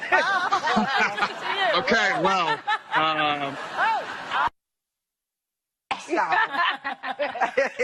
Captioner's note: Risas